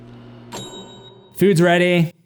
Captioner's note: ding